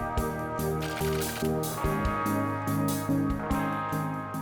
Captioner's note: gentle soft rock music; text clicking